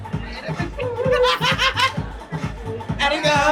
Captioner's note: laughing